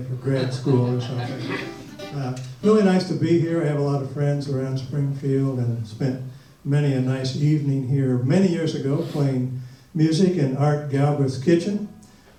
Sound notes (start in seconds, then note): 2.3 audience laughs